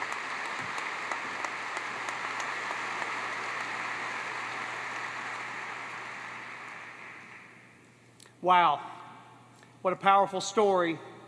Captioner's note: applause